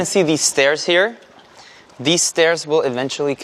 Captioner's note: water splashing